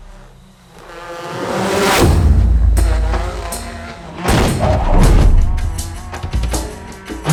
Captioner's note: car engine roaring; dramatic music